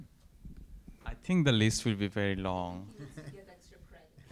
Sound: laugh

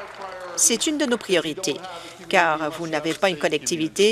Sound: applause

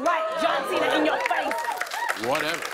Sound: cheers and applause

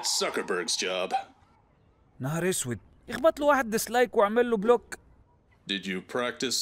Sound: speaks foreign language

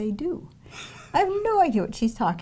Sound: laughs

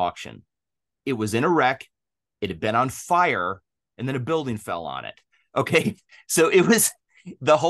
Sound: both laugh

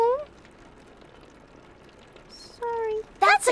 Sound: rain trickles on window

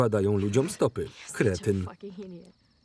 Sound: laughter

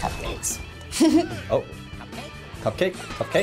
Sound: laughs

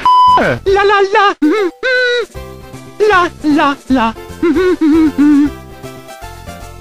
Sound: Mario humming

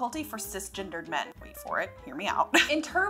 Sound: laughs

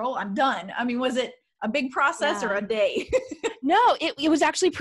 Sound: laughing

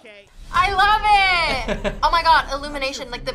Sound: laughs

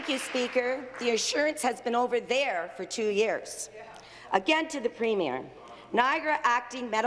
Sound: applause

